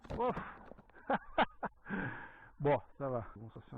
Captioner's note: laughs